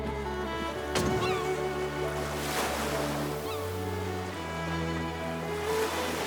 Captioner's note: bright inspiring music; waves crashing; gulls calling